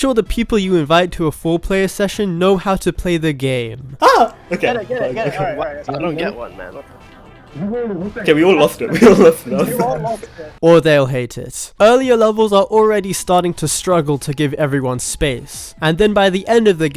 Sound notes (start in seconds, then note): 9.7 laughs